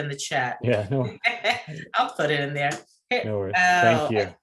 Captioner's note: laughs